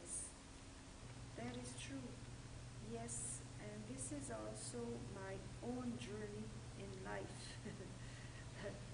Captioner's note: laughter